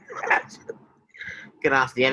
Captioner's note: chuckles